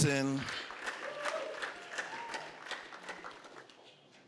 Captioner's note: applause